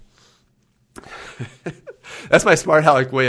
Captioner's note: laughs